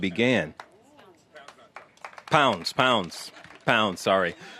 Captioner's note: applause